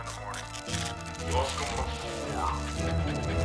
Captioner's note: crackling, distorted; pee splashing